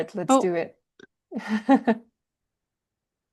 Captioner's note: chuckles